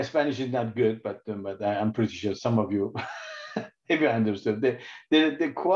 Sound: laughs

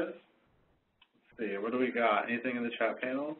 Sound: voiceover

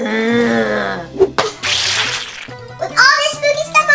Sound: groans

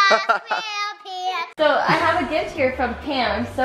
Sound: laughs

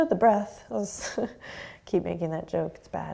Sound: laughs

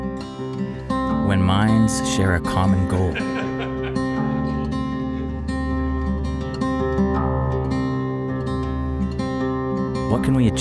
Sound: laughter

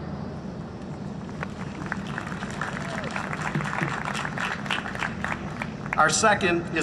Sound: applause

